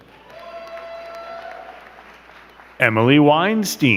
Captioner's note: crowd cheering and clapping